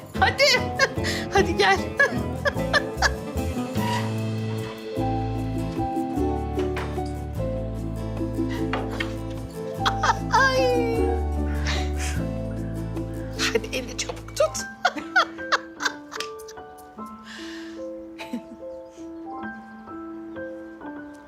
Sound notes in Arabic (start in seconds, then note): 1.7 يضحك; 9.8 يضحك; 14.4 يضحك